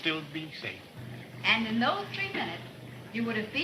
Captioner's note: motor rumbling